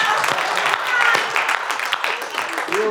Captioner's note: laughing